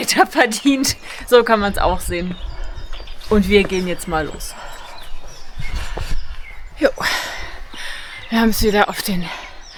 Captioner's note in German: seufzt